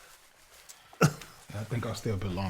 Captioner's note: coughing